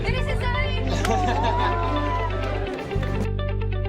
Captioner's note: cheering